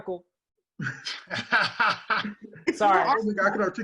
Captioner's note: laugh